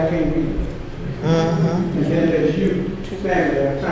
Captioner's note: chuckling